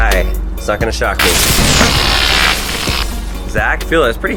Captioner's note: electricity roars